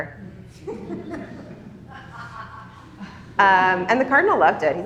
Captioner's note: attendees laughing